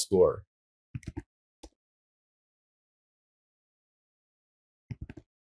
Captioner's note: keyboard typing